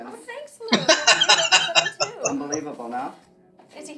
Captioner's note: laughing